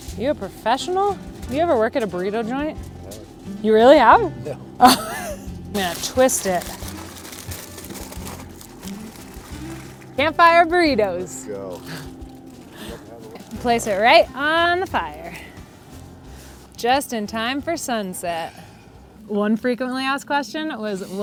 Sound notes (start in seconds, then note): 4.4 laughing